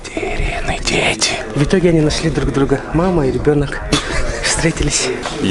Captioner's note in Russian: смех